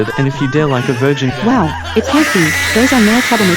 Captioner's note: Both Bart and Gordie Laughing; Charli Shouting